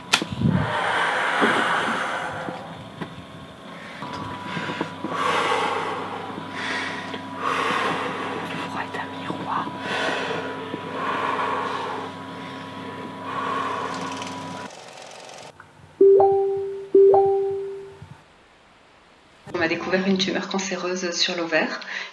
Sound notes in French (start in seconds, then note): 3.6 Respiration; 16.0 Notification facebook